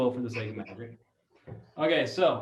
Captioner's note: laughs